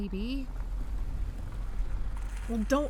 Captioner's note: vroom